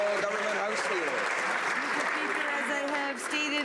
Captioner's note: some Applause